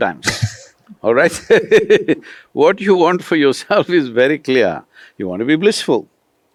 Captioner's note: laughter